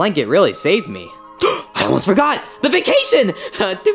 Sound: sputters melodically

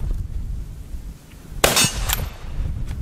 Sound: gun fires

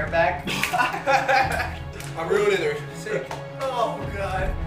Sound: laughs

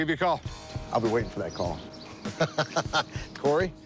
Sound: laughs

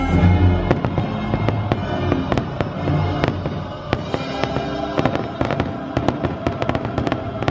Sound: fireworks crackling

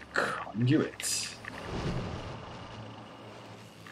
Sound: none

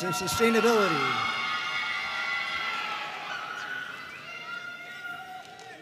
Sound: audience cheering and applauding

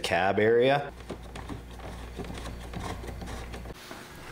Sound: drilling; vacuuming

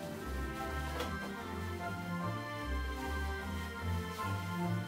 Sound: fabric rustling

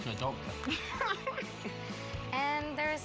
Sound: laughs

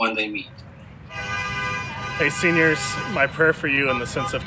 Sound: sound of cars honking

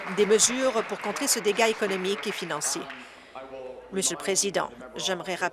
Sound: applause

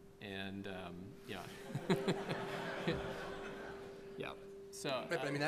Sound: laughter

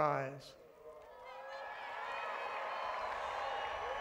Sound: applause

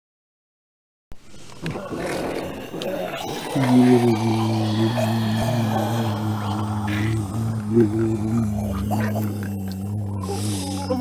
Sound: sound of group of zombies

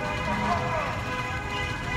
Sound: honking

